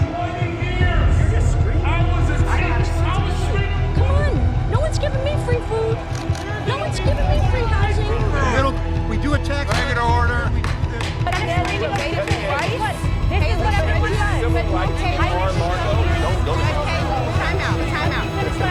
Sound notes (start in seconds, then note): 10.7 gavel banging; 14.7 overlapping chatter